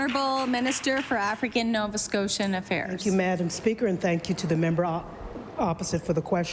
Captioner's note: applause